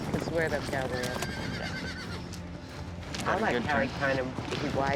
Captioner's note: horse neighing